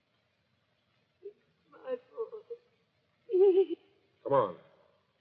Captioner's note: sobs